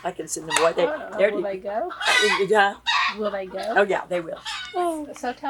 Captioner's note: laughs